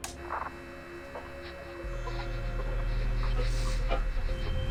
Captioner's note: radio crackles; rhythmic beeping tones